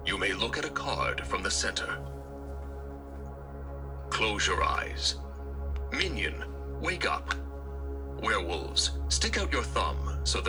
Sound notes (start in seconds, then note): none